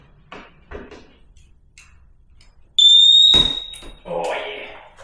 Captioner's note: beeping